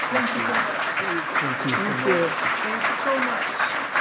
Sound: loud clapping

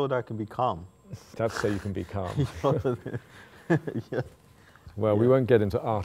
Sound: laughing

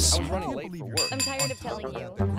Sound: dings glass

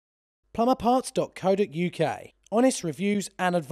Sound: voiceover

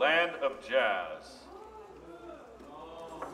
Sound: audience members gasping

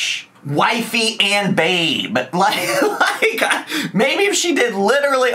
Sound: laughs

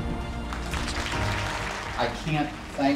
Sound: applause

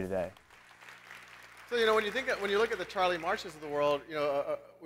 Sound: applause

